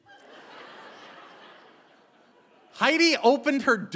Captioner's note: audience laughing